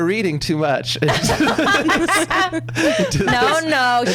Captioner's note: laughs